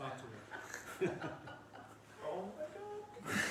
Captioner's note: laughing